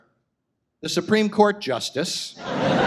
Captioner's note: audience laughs